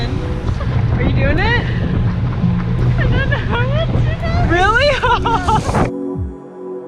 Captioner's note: laughter